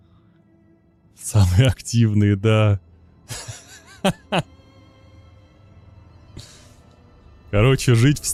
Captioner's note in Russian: смех